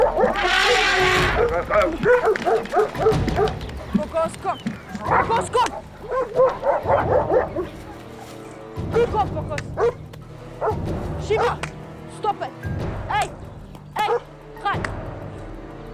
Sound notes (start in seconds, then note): 0.1 dogs barking; 4.5 speaking foreign language